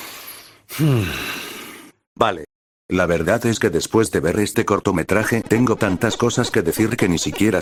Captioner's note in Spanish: Respiración